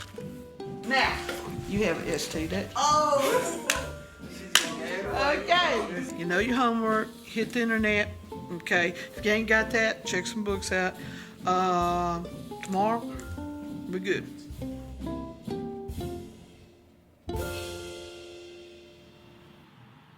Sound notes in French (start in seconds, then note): 4.0 Applaudissements